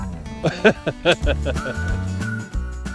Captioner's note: laughs